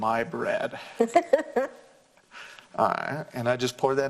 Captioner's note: laughs